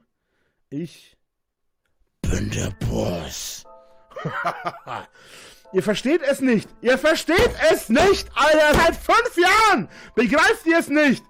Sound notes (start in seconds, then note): 4.1 laughs